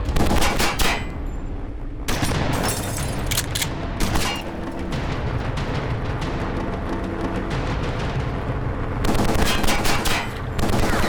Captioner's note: gunshots continue